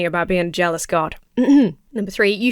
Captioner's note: clears throat